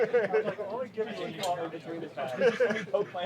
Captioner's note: soldiers chattering and laughing; laughing